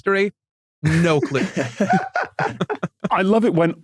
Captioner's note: guests laugh